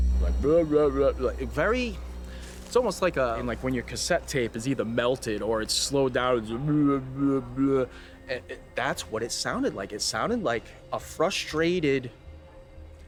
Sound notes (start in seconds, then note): 0.2 imitates human mumbling; 7.9 imitates human mumbling